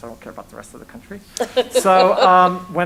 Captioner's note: laughs